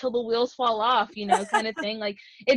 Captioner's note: laughs